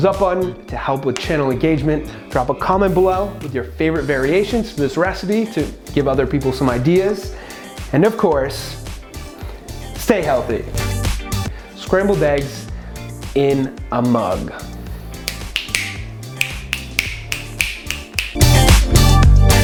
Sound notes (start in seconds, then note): 15.2 snap, snap, snap